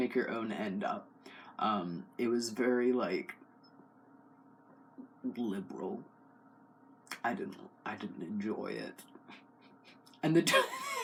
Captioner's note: laugh